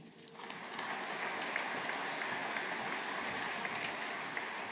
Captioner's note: audience applauding